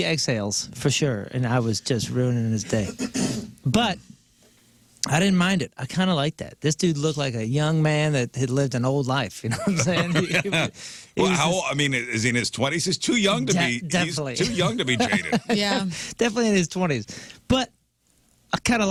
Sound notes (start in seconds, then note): 9.6 laughing